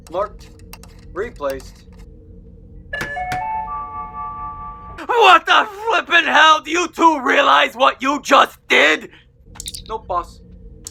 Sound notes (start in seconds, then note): 0.1 screwdriver sounds; 2.9 hammering; 3.6 P.A. tone; 9.6 communicator chirp